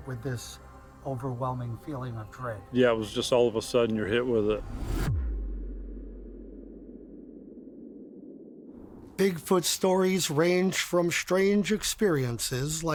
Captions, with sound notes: with this overwhelming feeling of dread? - Yeah, it was just, all of a sudden you're hit with it. (air whooshing) (wind blowing) - Bigfoot stories range from strange experiences